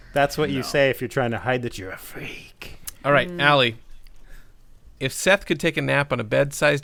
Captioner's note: library pervert voice